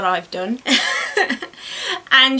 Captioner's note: giggles